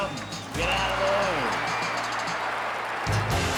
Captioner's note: crowd cheers